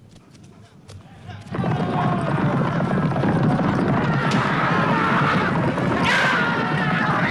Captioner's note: horse hooves pounding; raiders clamoring